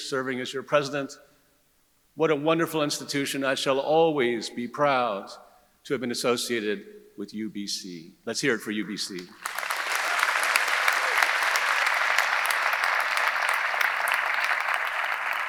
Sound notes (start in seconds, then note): 9.2 audience applauding; 9.2 audience cheering